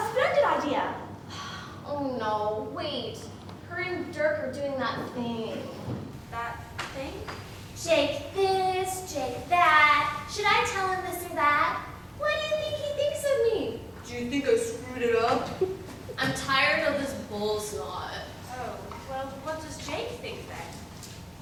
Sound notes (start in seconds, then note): 8.5 swooning voice; 14.2 imitating dirk